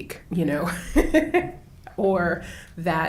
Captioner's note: laughs